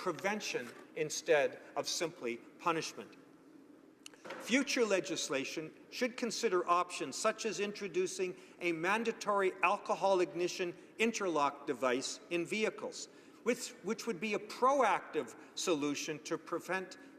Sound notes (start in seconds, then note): none